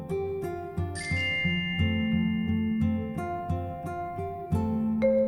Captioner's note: gentle music; chimes tinkling